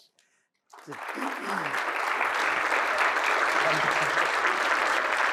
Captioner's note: applause